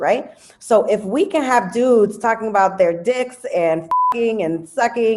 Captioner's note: beep